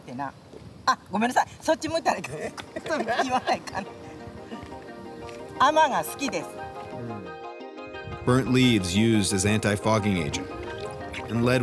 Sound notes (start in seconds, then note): 2.3 both laugh; 6.1 continues speaking Japanese